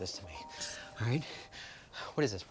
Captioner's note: phone ringing